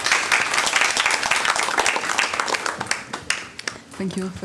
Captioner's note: applause